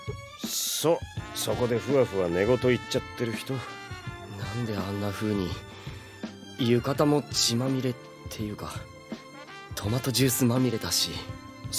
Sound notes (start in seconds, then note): none